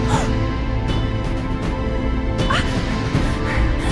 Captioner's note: gasping